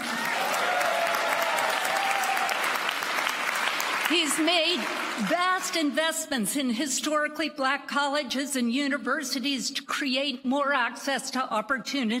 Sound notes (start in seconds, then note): 6.5 applause